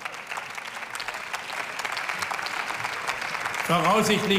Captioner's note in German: Beifall